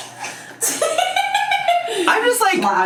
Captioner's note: laughs